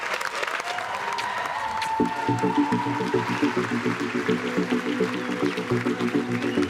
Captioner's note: kisses smacking; pensive music